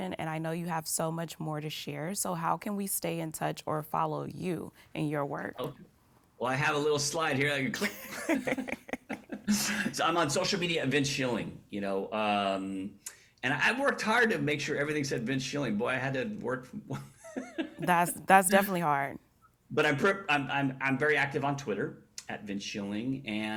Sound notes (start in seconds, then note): 7.8 both laugh